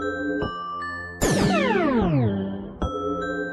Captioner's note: teleportation sound